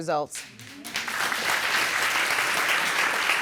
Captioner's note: audience clapping